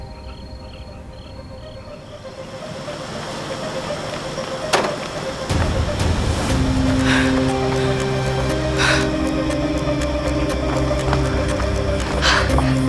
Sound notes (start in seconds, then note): 4.6 car door closes; 6.6 sighs